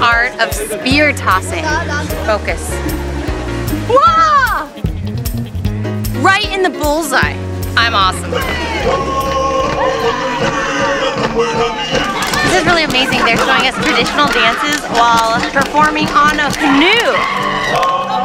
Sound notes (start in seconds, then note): 3.9 screams; 9.1 samoan chanting